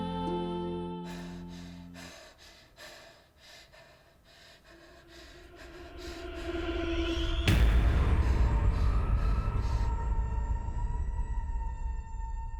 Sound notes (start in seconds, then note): 1.0 Abby pants; 5.0 ominous music